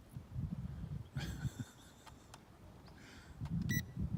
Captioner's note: laughs